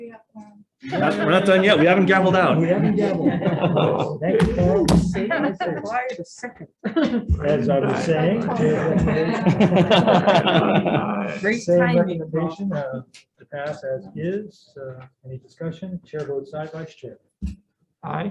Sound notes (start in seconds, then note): 2.9 chuckles; 9.5 Senators chuckle